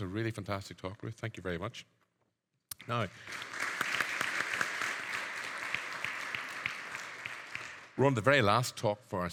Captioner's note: audience applauding